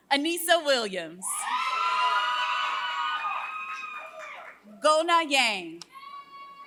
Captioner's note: applause